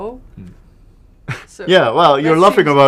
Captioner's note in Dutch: lach